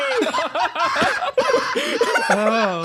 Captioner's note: laughs